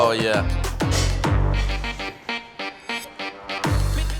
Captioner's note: pan clanking